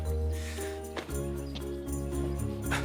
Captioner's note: chuckling